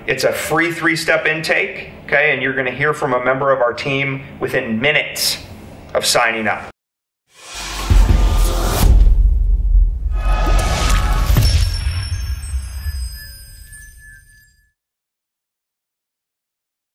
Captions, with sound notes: It's a free three-step intake, okay? And, you're gonna hear from a member of our team within minutes of signing up. (dramatic music) (chimes ringing)